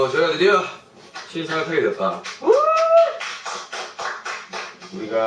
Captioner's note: cheers